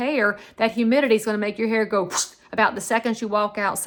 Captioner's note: whooshes